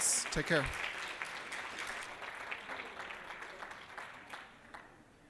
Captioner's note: applause